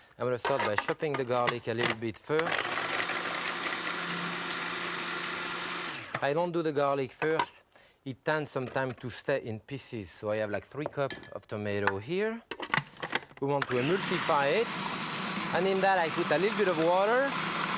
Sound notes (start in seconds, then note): 2.4 food processor whirring; 13.6 food processor whirring